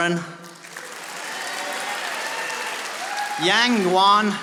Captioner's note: audience applauding